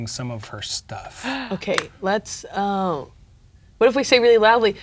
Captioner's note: gasps